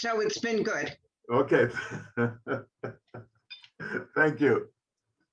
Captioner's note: laughing